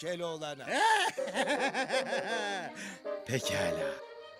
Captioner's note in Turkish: Gülme sesi